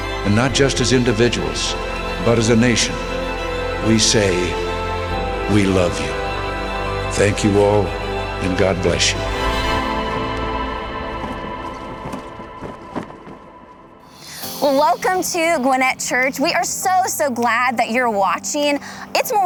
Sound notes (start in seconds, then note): 9.4 moving music; 12.4 flag waving